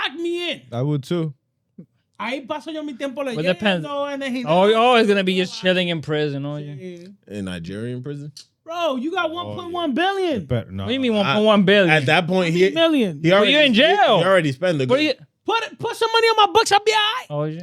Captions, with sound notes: Lock me in. I would too. (Speaking In Foreign Language) Oh, he's always gonna be just shitting in prison. In Nigerian prison? Bro, you got 1.1 billion. Leave me 1.1 billion. At that point, he already spent the game. Put some money on my books, I'll be all right.